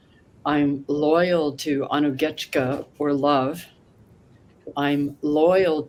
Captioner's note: non-english